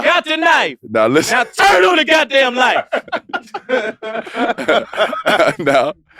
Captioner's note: group laughs